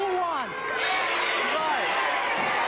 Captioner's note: audience shouting